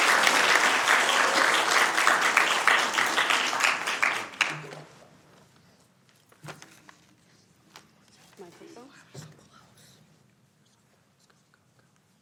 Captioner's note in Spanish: aplausos